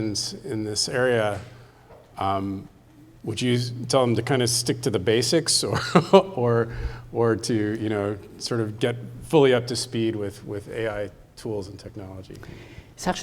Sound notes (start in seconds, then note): 5.6 chuckles